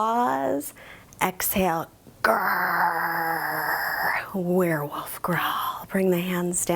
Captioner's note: growls